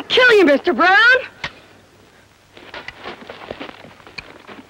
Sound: gun clicking

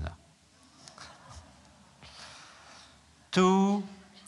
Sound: laughter

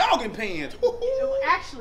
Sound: exclaims

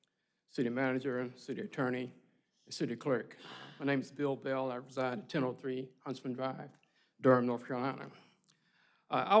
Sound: laughter

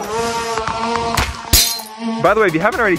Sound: hover board buzzing; glass shattering

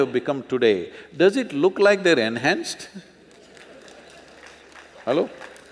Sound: laughter/Applause

